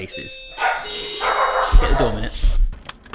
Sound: doorbell ringing; dogs barking

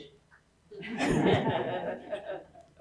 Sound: laughter

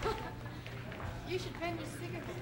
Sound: laughing

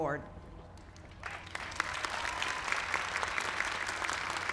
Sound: applause

